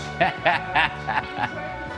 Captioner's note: laughing